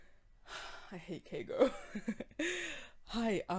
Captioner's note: sigh